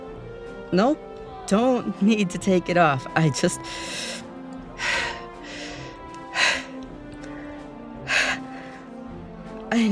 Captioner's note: rapid breaths